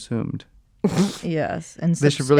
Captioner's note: chuckles